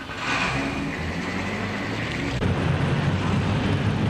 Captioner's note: engine revs